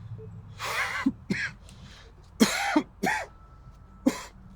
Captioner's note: David coughing